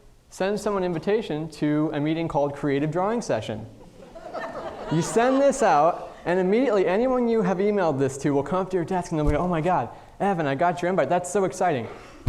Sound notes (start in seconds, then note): 3.8 audience laughing